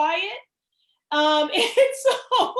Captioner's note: laughter